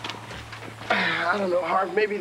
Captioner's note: Evan sighing